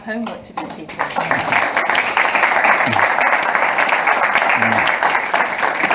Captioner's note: audience applauding